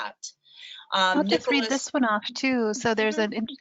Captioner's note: murmurs